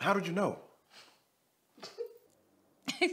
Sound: wife laughs

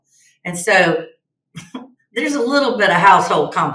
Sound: chuckles

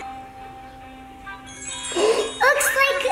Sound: twinkle sound

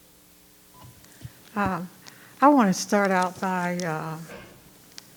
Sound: microphone beeping

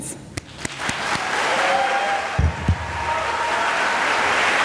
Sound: cheering and applause

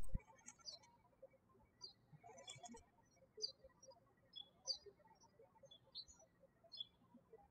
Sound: birds chirping

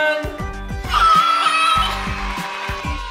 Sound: clapping

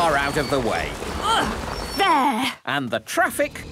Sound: grunts

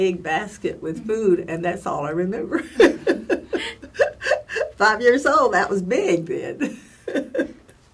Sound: laugh

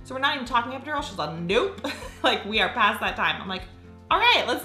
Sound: laughs

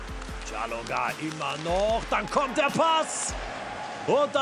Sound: announcer speaks German

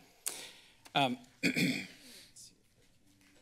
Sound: clears throat; silence

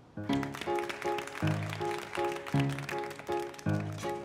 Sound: begins to play a pleasant piano tune; applause

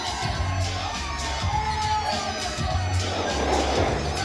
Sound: rap music; crowd cheering

